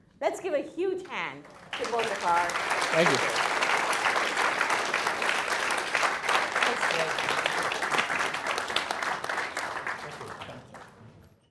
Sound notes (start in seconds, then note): 5.2 audience clapping